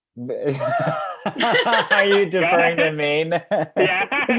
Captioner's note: laughs